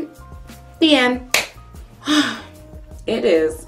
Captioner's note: exhales